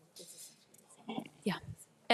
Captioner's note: speaks faintly